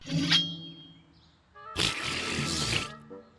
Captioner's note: blows raspberry